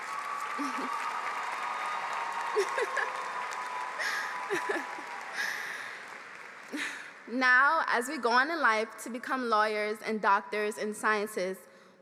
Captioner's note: applause